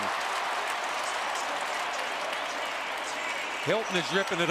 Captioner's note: cheering